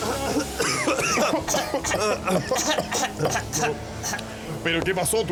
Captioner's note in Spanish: Los tres tosiendo